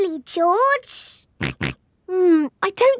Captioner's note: snorts